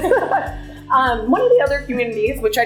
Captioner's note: laughter